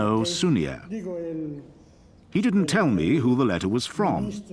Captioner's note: speaking foreign language